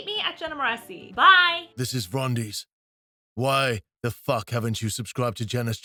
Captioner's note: rumbling Male Voice